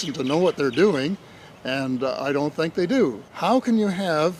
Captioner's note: none